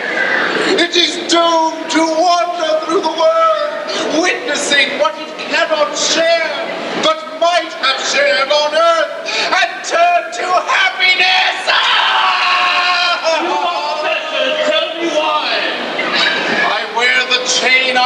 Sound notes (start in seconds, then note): 11.7 cries in pain